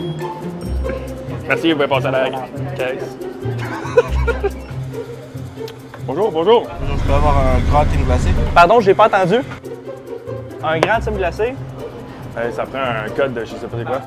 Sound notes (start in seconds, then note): 3.5 laughs